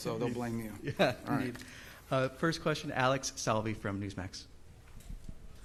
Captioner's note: laughter